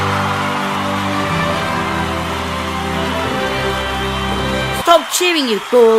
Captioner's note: applause